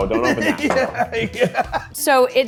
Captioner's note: laughing